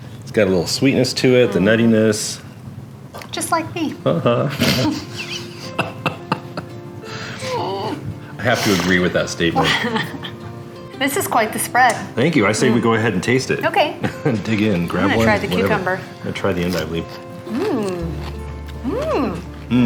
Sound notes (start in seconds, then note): 4.2 chuckling; 6.4 pleasant music; 9.5 chuckling